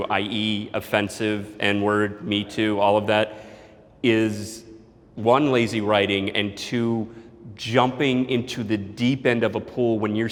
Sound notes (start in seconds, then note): none